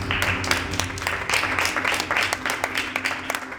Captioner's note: applause